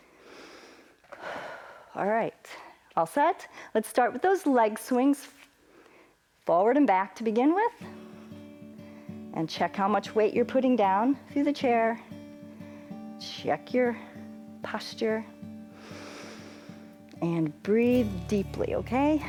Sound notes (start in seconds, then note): 0.0 inhales and exhales